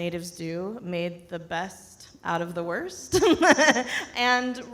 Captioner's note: laughs